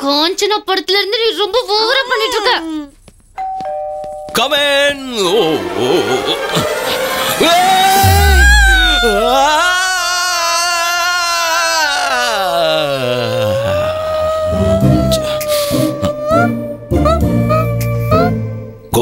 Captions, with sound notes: Since 'Kanchana' film, you are overacting. (Door bell rings) Come in.